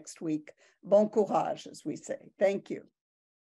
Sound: speaking in foreign language

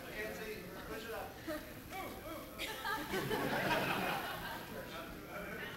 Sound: laughter

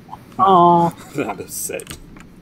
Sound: laughs

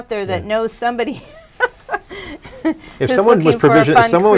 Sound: laughs

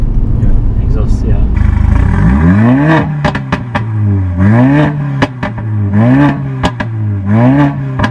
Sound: amg pops and crackles

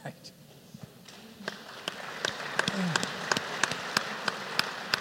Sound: applause

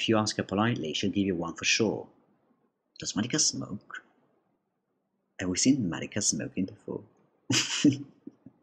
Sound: chuckles

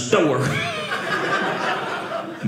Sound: audience laughing

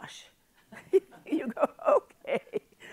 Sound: chuckles

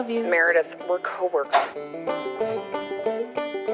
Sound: phone hangs up; banjo interlude

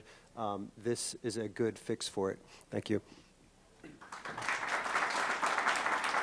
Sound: applause

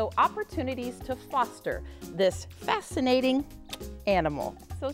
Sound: kissing sound

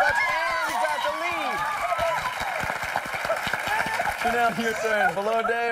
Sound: cheers and applause

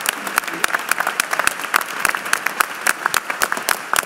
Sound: applause

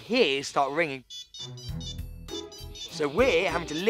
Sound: ringtones continue to play

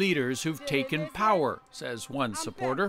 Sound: speaking alternate language

